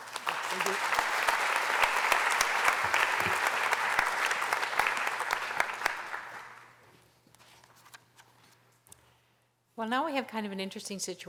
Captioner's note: applause